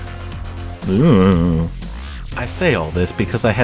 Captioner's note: Simpsons worried noise